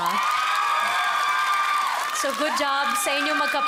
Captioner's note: audience cheering, clapping